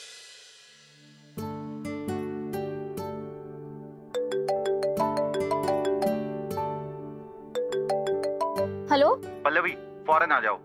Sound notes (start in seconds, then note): 1.3 hopeful music playing; 4.2 phone ringing